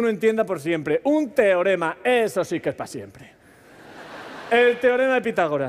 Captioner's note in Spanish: Risas